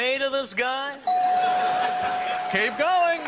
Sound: bell dings; audience laughs; audience claps

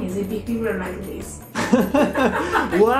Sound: laughing

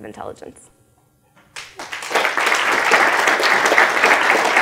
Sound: applause

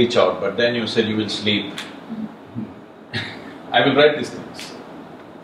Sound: few laugh

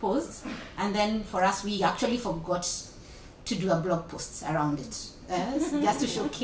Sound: laughter

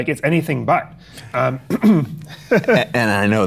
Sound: laughs

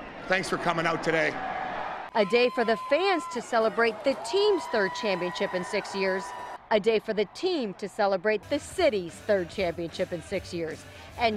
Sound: cheering

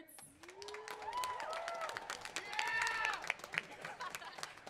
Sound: band cheering

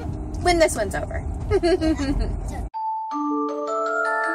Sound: laughs; music

